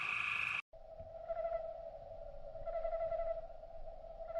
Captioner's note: owl hooting